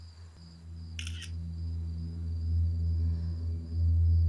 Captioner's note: phone clicking